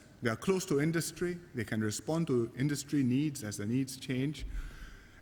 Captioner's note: none